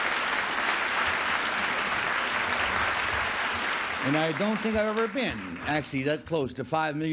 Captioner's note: applause